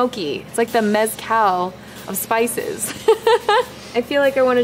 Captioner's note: laughs